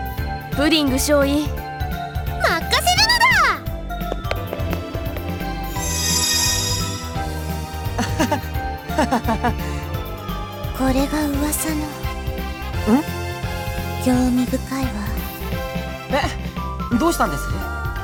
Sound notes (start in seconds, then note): 7.9 awkward laugh